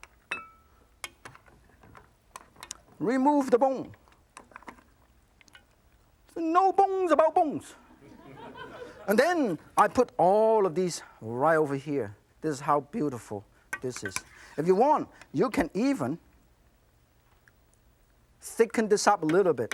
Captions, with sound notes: Remove the bone. No bones about bones. (audience laughs) And then I put all of these right over here. This is how beautiful this is. If you want, you can even thicken this up a little bit,